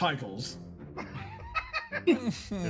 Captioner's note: laughs